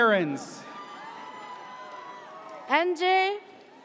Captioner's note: audience cheers